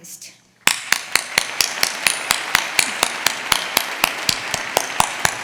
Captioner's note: audience applauding